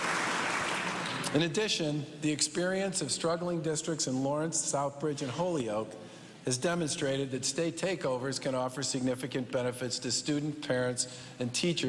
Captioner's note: cheers and applause